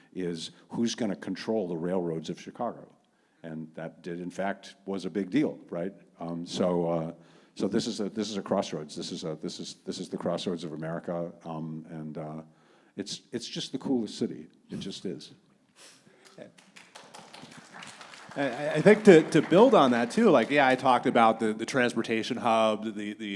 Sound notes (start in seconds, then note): 16.2 audience clapping